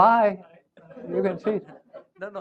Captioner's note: laughter